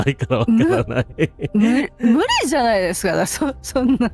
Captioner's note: laughter